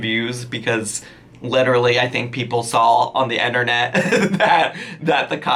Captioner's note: laughs